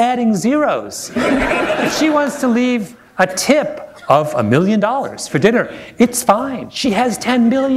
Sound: laughter

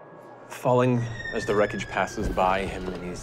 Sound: wind blowing

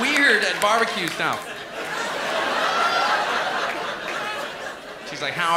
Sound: laughter

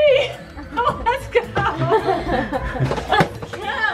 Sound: laughs

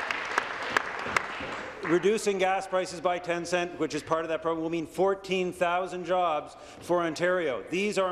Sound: some Applause

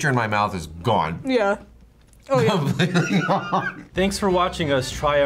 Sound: laughs

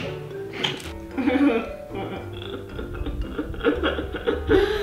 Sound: awkward giggling

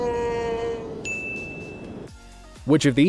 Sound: sculpture cries out; bell rings

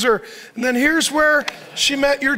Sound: audience laughs

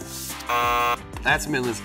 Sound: buzzer

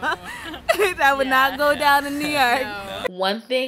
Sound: laughs

